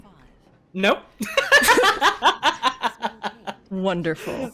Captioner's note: laughs